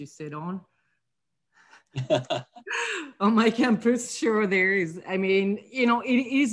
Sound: laugh

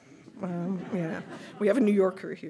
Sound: audience laughing

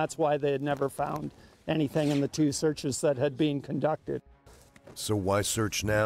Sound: voiceover

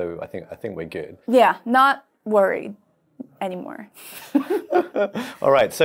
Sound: chuckling

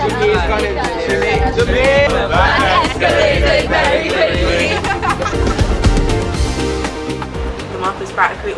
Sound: laughing

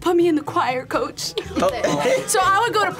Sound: group laughs

